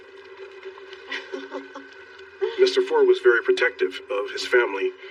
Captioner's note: lauaughghs